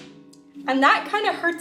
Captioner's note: loud bangs